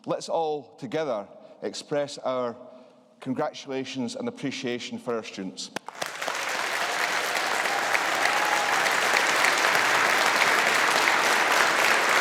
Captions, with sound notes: let's all together express our congratulations and appreciation for our students. (AUDIENCE APPLAUDING)